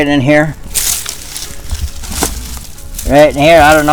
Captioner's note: leaves crunching